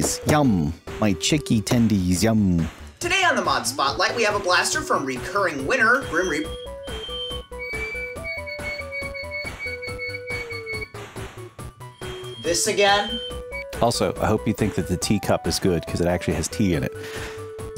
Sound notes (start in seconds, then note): 8.2 loud bird noises